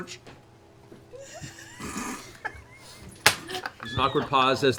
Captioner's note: laughter